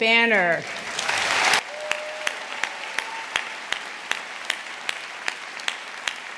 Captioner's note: audience applauding; audience cheering